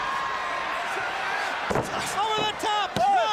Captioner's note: crowd chatter